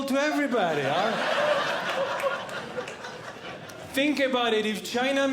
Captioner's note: audience Laughing